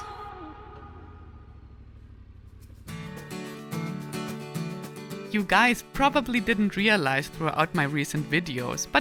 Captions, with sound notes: (motorcycle engine growling) (gentle music) - You guys probably didn't realize throughout my recent videos,